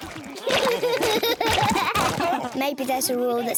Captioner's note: all laughing